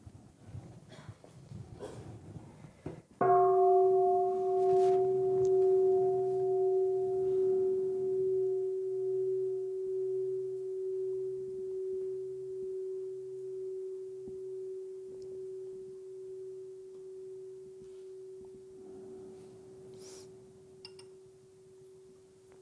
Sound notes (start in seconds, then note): 3.2 the sound of the bell